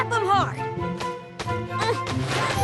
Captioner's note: grunt